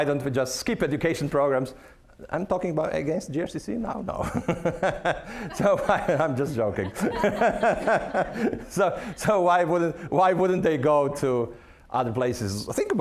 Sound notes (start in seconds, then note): 4.2 laughing; 7.3 audience laughing